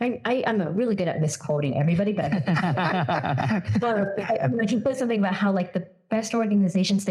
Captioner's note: laugh